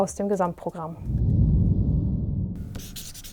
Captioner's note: swoosh